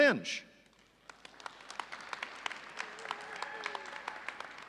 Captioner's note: audience applauding